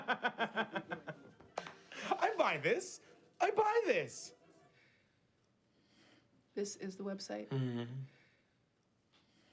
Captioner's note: laughing